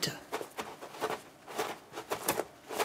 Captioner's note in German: Rascheln